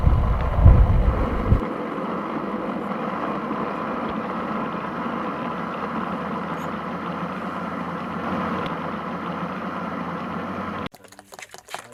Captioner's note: batidora